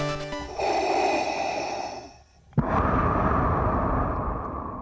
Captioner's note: breathe in...breath out